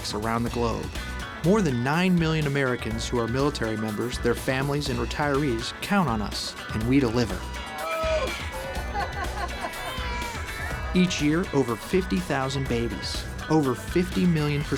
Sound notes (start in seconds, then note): 8.3 laughter; 9.6 crying newborn